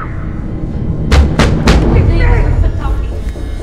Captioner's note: screaming continues; loud knocking